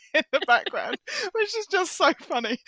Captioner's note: laughter